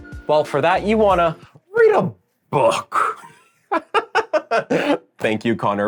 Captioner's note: laughs